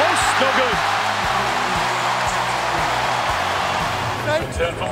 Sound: crowd cheers

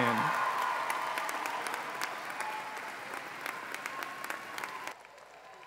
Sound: applause

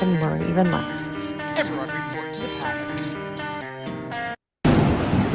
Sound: thundercrackles

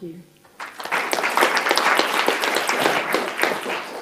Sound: applauding

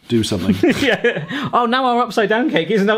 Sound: they laugh

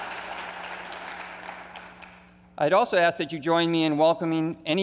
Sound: applause

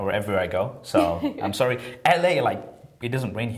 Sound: laughter

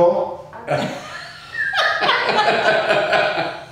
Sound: laughing

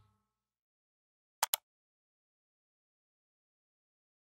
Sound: mouse click

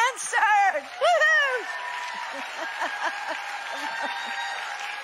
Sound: people cheering

